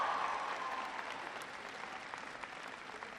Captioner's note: applause